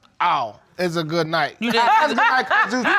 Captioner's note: audience laughing; laughing